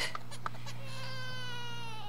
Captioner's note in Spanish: Llanto de bebé